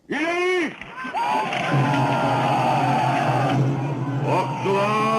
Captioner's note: men shouting; dramatic music